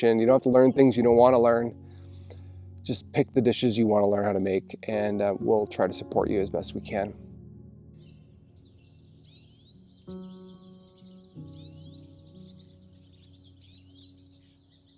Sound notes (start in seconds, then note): 7.9 birds chirping; 7.9 gentle music